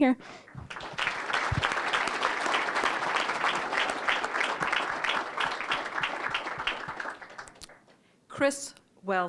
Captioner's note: applause